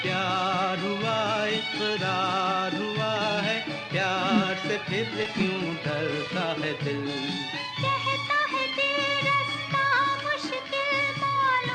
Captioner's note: humming